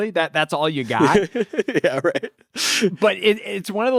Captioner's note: laughs